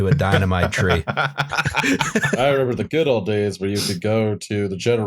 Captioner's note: laughter